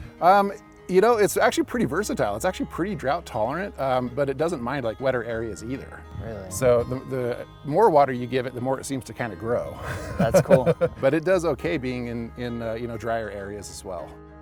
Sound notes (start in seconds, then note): 9.8 laughs